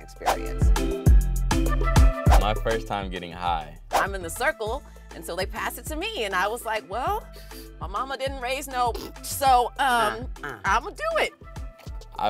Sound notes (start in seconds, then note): 0.3 upbeat music; 9.0 snorting noise